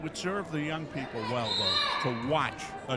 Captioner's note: referee whistling